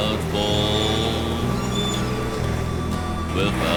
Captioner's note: bird screeching